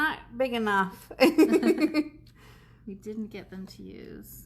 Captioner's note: laughs